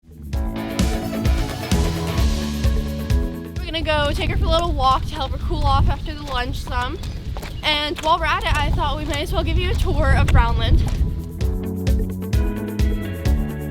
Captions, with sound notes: (upbeat music) - We're gonna go take her for a little walk (horse walking) to help her cool off after the lunch some. And while we're at it, I thought we might as well give you a tour of Brownland. (upbeat music)